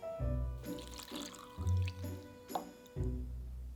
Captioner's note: liquid pouring